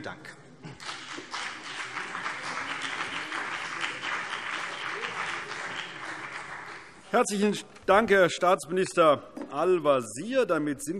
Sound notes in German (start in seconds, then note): 0.7 Beifall CDU und BÜNDNIS 90/DIE GRÜNEN